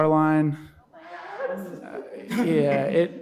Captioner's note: audience chuckling